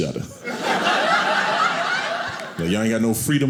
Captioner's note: audience laughing